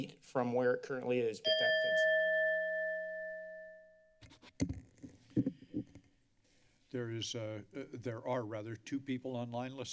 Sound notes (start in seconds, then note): 1.4 bell rings; 5.3 mic tapping